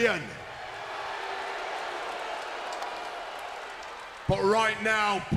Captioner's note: crowd cheering